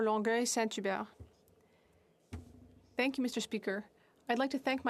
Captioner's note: speaking French